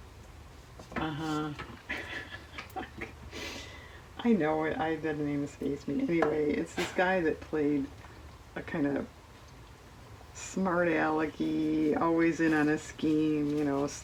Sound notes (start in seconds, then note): 1.1 laughs